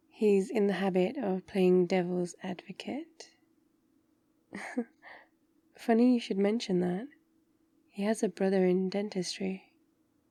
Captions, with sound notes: he's in the habit of playing devil's advocate *laughs* funny you should mention that he has a brother in Dentistry